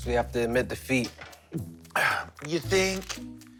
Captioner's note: gulps